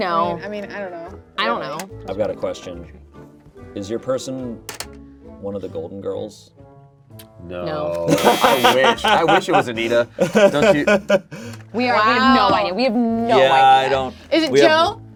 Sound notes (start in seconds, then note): 8.0 laughs; 8.1 buzzer buzzes